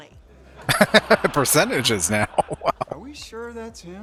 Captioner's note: laughing